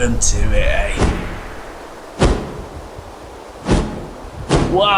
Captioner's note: big whoosh and heavy wingbeats